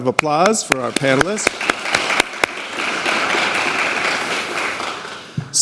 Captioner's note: applause